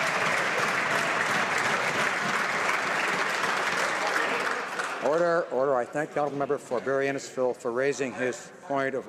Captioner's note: some Applause